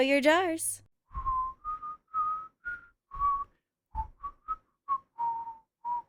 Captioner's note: whistling resumes